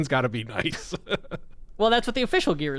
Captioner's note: laughs